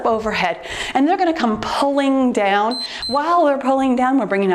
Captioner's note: timer beeps